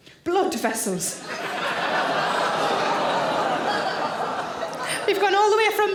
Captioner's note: audience laughing; audience groaning